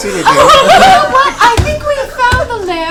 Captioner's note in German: Gelächter